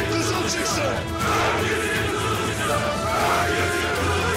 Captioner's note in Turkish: Hep bir ağızdan